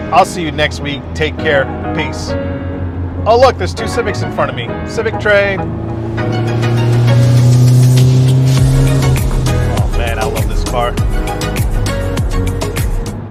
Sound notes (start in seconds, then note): 2.6 soft music; 7.7 revs engine; 7.7 upbeat music